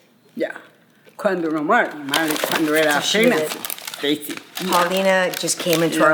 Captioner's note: speaking spanish